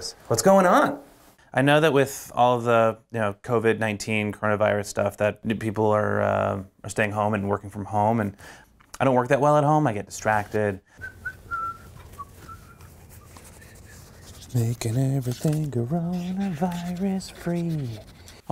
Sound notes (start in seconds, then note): 10.9 whistles